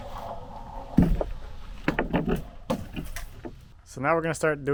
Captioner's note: plywood scraping